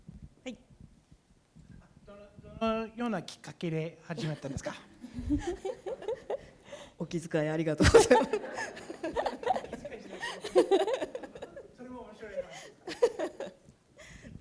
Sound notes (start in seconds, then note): 0.1 speaking japanese; 5.0 laughter; 6.8 speaking japanese; 7.8 laughter; 9.7 speaking japanese